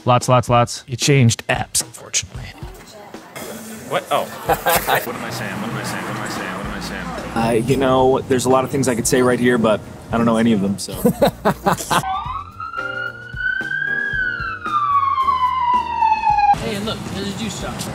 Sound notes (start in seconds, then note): 10.9 instructor laughing; 11.9 sirens wailing